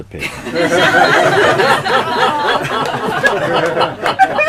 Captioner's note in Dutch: Gelach